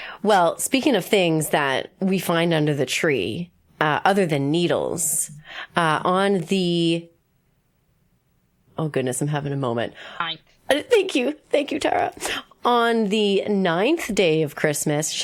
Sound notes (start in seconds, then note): none